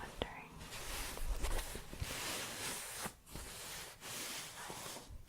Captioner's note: shuffling